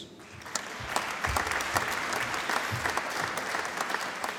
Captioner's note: applause